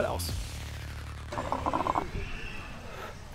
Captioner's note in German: Blubbern